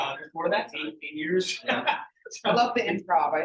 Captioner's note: laughing